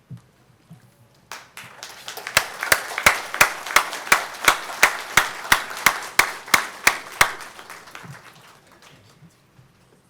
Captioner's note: applause